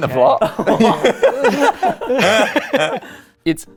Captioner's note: laughing